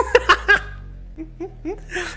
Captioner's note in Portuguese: risos